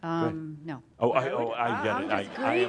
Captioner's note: laughter